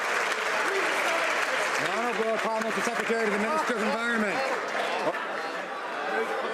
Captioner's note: some Applause